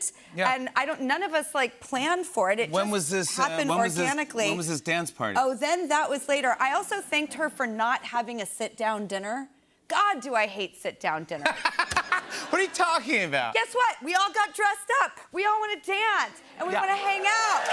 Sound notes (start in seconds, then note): 11.4 laughter